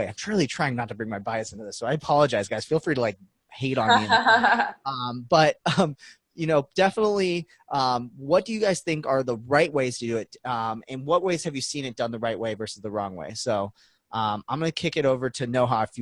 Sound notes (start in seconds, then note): 3.8 laughing